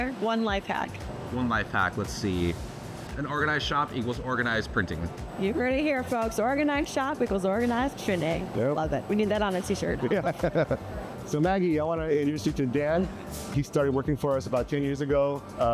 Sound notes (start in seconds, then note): 10.0 laughs